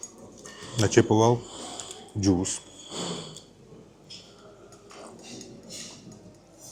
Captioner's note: sniff